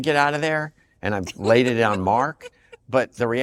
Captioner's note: laughs